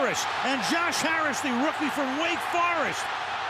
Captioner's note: cheering